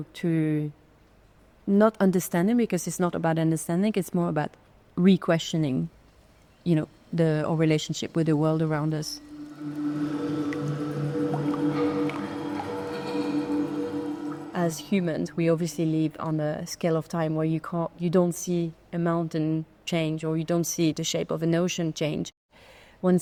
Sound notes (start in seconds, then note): 9.1 pensive music continues; 10.0 water dripping